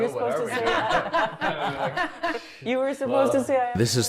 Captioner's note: people laughing